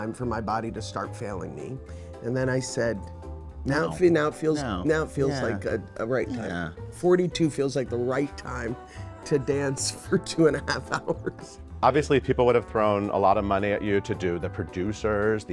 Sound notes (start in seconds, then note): 10.8 laughing